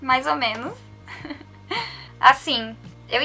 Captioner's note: giggles